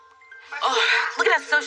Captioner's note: eep